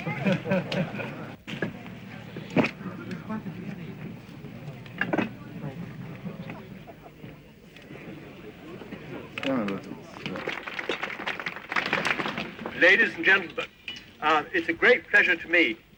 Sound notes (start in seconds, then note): 5.1 indistinct chatter; 12.0 applause